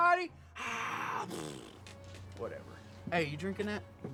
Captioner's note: blows raspberry